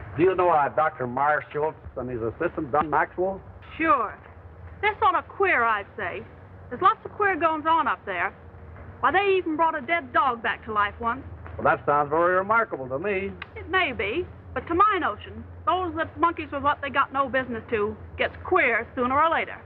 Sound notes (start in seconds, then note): none